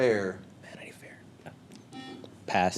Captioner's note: whispers